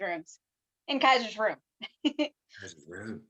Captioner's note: laughs